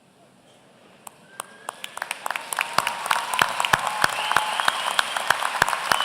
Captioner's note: applause